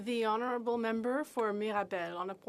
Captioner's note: speaking French